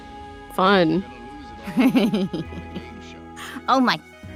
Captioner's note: chuckles